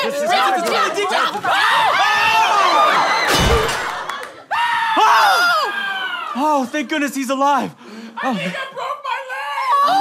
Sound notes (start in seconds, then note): 1.4 screaming; 3.2 thud; 4.5 screaming